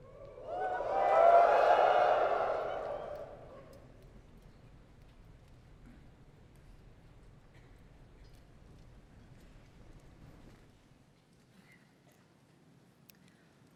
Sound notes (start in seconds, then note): 0.0 audience whoops; 5.9 silence